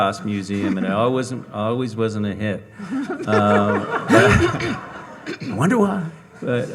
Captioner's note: audience laughing